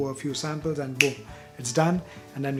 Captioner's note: snap